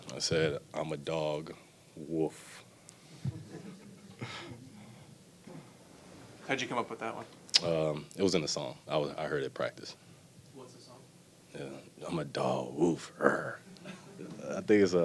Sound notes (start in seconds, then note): 3.2 reporters chuckle